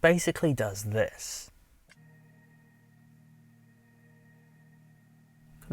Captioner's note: car Ambient Noise